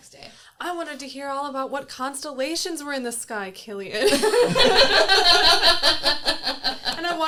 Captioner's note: everyone laughs